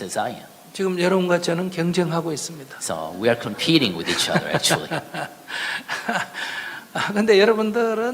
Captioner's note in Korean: 스님과 청중 웃음